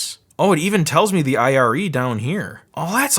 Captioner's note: none